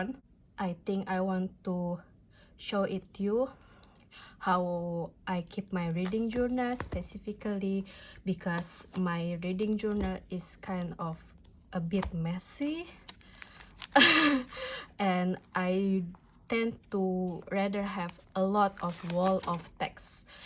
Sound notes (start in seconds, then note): 13.9 chuckle